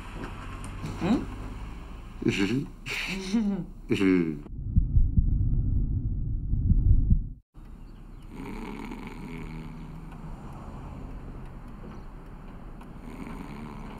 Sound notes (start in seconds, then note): 3.0 both chuckle; 8.2 snores